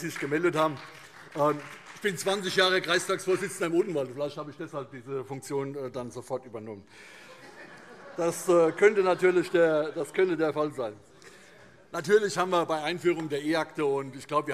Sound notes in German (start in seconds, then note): 7.2 Heiterkeit